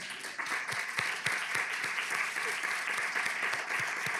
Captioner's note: audience clapping